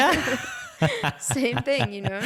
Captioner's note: laughing